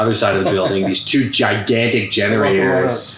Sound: laughs

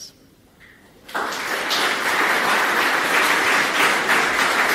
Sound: applause

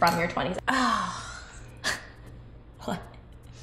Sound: sighs

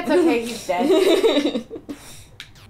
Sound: laughter

